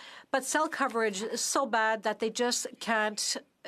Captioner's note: speaking French